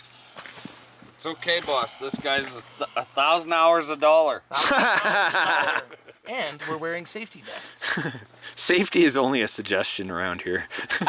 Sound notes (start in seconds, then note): 4.5 all laughing; 7.7 laughs